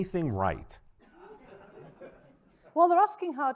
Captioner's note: audience laughing